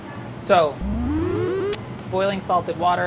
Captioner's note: humming